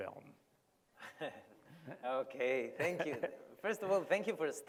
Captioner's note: laughs